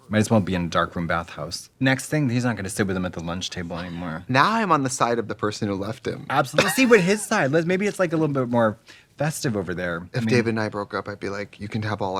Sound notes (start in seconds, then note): 6.6 Trixie laughs